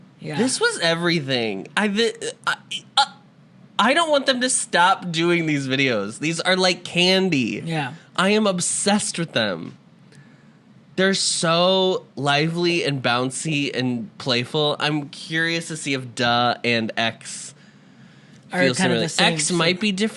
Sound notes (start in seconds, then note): 2.4 stutters